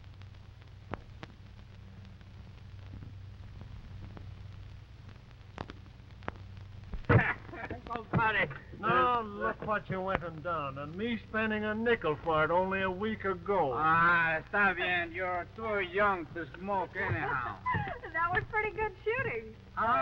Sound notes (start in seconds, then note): 7.0 laughing; 14.1 Pablo speaking in foreign language; 16.8 laughs